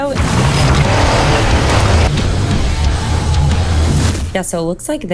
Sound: engine roars; heavy rock music

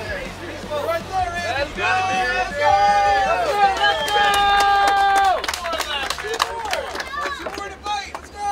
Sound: cheering & Clapping

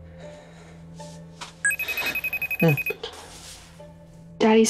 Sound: phone ringing

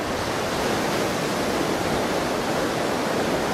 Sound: waves crashing

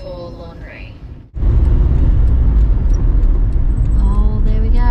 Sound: road noise starts to reduce, and blinker clicks

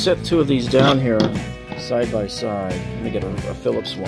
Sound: screwdrivers clatter

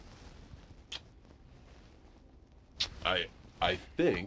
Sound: smooches

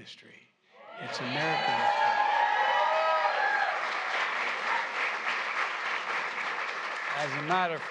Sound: applause

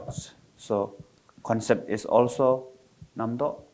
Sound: foreign language

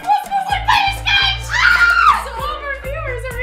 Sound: squeals

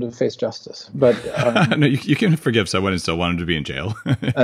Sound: laughs

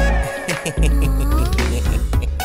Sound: Tej laughs

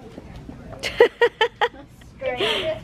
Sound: laughing

